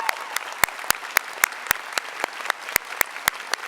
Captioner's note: applause